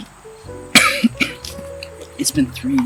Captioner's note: Frank coughing